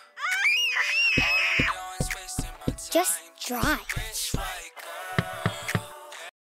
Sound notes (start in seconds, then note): 3.6 knocking on rear window